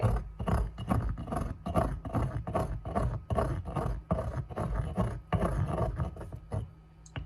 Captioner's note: grinding noises